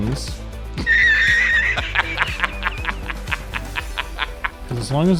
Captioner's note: raucous laughter